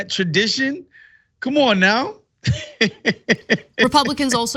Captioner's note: laugh